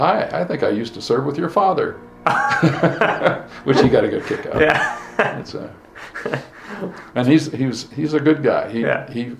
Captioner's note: both laugh